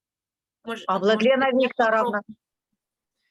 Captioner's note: speaking Ukrainian